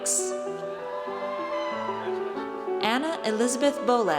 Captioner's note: audience cheers